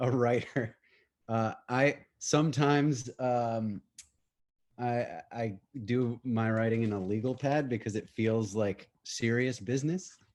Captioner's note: laughter